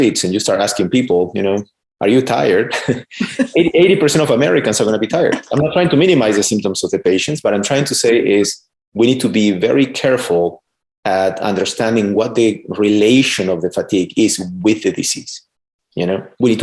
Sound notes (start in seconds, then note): 2.5 chuckles; 2.7 laughing